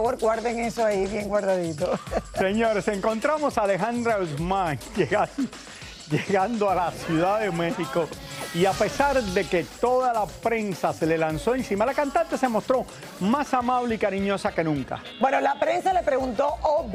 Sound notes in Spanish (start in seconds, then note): 5.1 risas